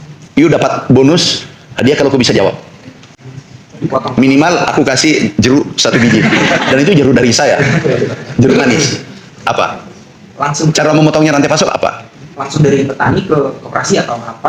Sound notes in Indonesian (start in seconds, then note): 5.8 tertawa